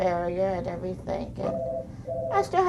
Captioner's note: phone ringing